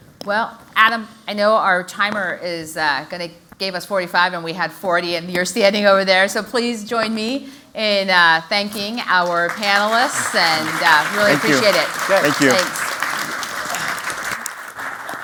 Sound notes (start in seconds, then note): 13.8 applause